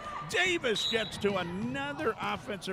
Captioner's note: referee whistling